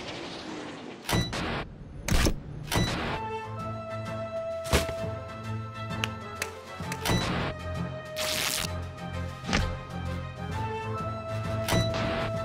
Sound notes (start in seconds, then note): 8.2 ripping